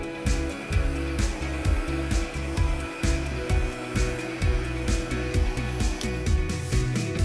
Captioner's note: blower whirring; pleasant music continues